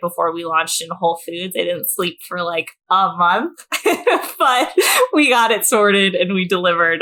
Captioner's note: laughs